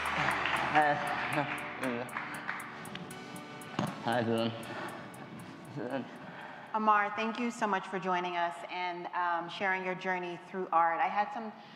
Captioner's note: applause